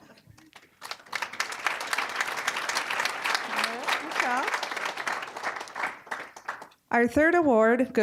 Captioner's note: applause